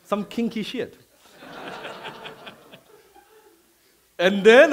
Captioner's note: laughing